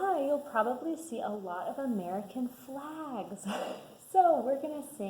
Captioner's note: laughs